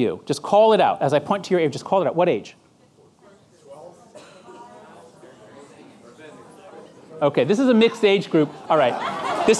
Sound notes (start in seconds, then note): 2.8 audience chattering